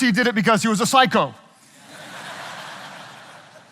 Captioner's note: audience laughing